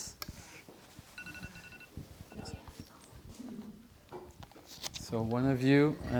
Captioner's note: alarm